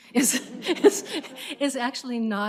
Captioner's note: laughter